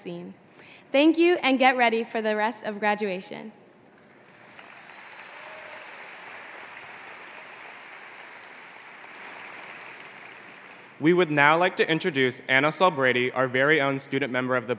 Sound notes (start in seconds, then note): 3.9 applause